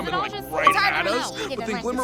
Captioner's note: xbox achivement